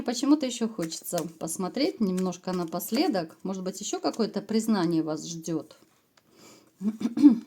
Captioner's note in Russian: откашливается